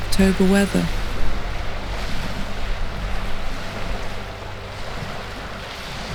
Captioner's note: waves crashing